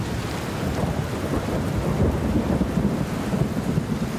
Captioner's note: rain pattering; thunder rumbling